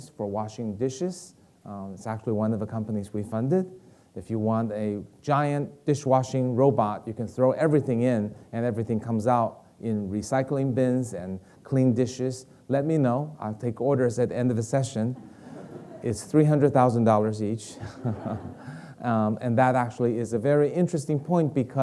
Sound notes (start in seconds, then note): 15.1 audience laughing; 17.7 Dr. Kai-Fu chuckling